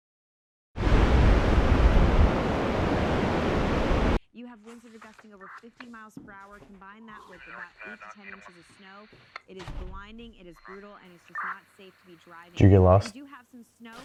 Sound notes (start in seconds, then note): 0.8 blizzard roaring